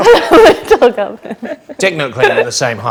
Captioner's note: overlapping chattering; laughs